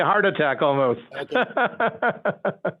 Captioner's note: laughing